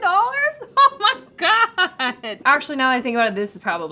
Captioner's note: laughs